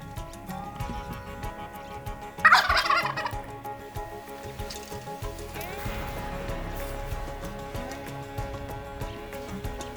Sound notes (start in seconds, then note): 2.4 turkey gobbling